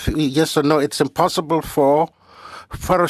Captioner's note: speaking French